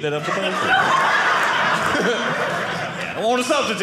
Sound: audience laughing

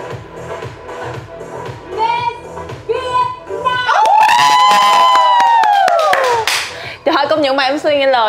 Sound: screaming

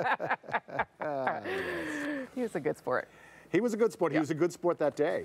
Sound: laughter

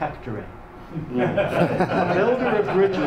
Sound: audience laughs

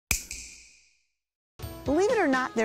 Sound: snap

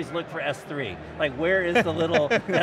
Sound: laughs

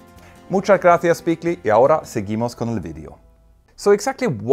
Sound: speaks Spanish

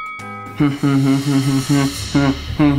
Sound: humming

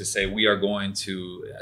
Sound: none

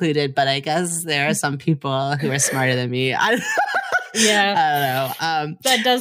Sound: cackles cheerfully

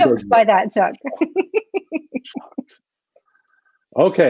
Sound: laughs

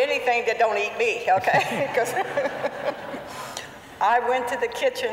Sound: laughter

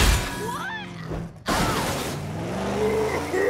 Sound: shouting

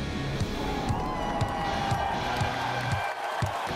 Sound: crowd cheers

